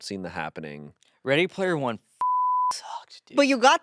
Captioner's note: beep